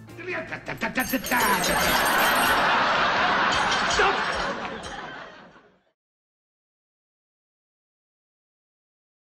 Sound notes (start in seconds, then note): 0.7 spoon clanging in jar; 2.9 crowd laughing